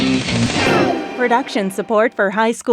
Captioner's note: funky music; slide whooshing